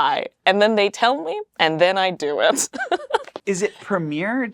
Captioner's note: laughs